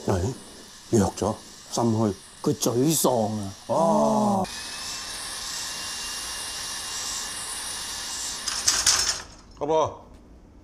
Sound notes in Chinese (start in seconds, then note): 3.8 電鑽聲